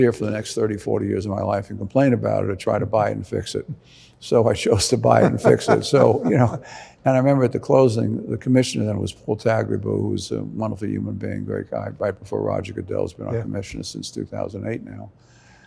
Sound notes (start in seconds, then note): 5.0 laughing